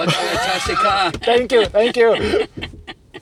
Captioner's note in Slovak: smiech